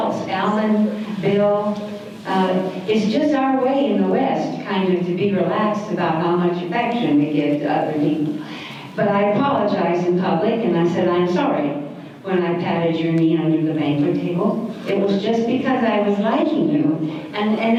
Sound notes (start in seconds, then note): none